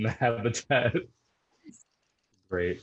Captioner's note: laughs